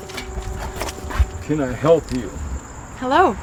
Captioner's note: gate clatters open